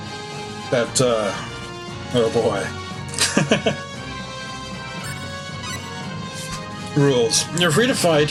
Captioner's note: laughs